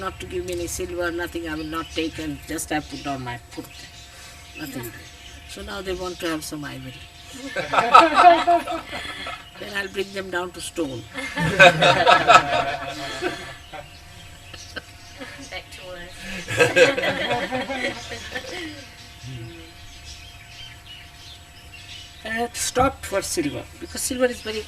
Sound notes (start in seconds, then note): 4.0 laughter